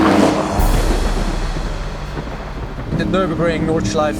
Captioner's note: thunder rumbles